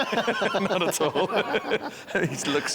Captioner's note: both laughing